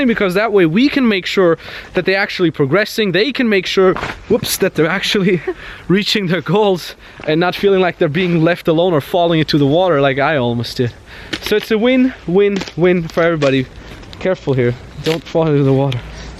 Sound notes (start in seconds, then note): 4.9 chuckles